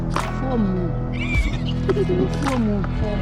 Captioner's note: laughing